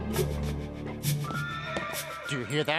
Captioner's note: horse whinnies